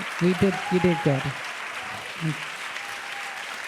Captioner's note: applause